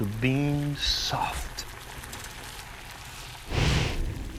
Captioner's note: simmering